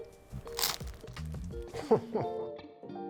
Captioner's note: crust crunching; gentle music continues; laughing